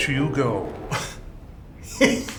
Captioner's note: scoffs; laughs